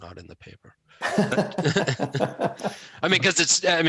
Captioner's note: laughing